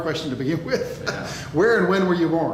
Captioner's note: laughs